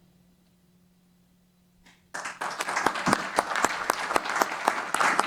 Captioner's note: applause